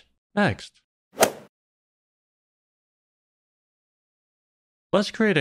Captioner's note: golf ball hit sound